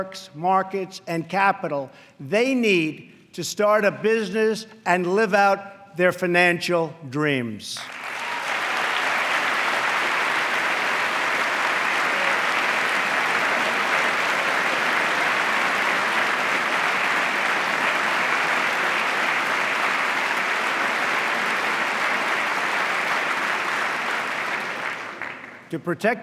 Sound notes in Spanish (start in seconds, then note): 8.3 aplauso